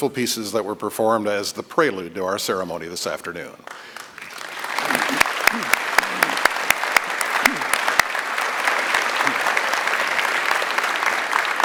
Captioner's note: applause